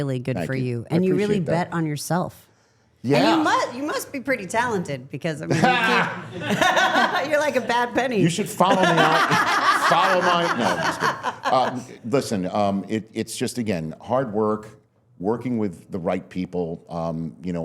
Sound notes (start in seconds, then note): 6.7 laughs